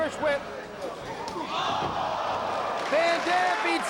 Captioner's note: spectators exclaiming